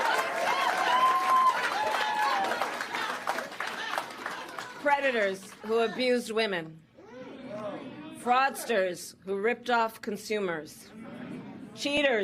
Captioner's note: applause; laughter